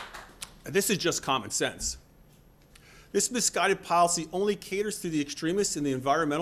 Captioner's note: applause